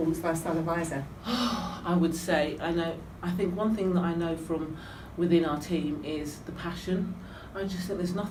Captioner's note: sighs